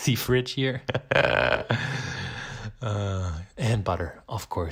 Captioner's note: laughing